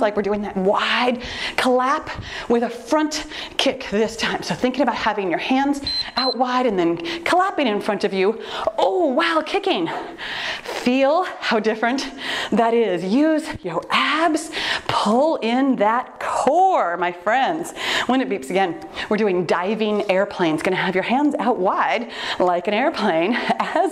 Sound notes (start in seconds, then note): 5.8 timer beeps